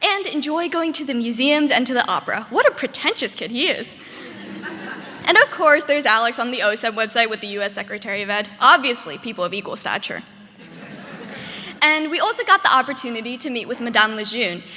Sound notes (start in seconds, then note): 4.0 audience laughing; 10.5 audience laughing